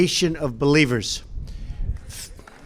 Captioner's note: applause